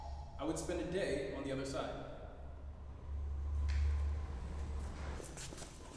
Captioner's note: offscreen voice